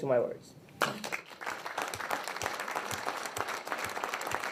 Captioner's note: people applaud